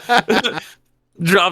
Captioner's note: laughing